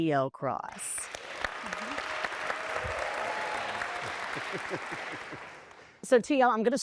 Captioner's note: applause